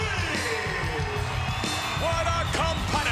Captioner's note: crowd cheering